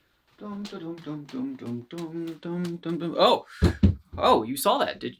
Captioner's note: humming